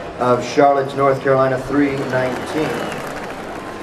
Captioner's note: announcer over PA